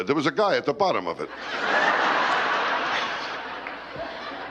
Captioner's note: laughter